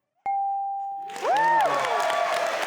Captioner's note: bell dinging; audience applauding